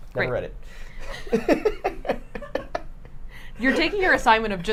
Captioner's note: both laughing